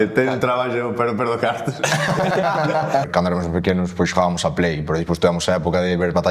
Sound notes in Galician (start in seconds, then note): 1.6 risas